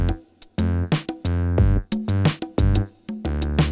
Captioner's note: none